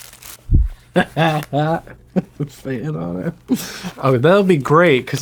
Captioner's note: laughs